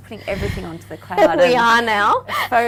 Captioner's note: laughing